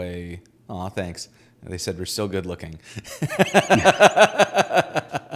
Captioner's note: laughing